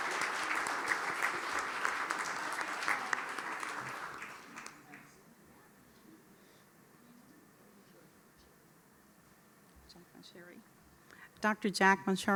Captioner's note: applause